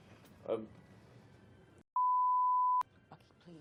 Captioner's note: beep